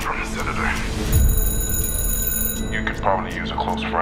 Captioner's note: phone ringing